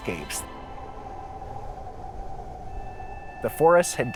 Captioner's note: wind blowing